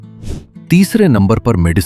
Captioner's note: sniffing sound